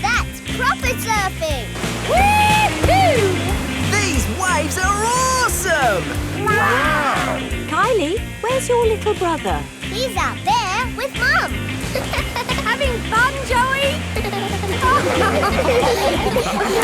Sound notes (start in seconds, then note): 11.8 giggles; 14.9 laughing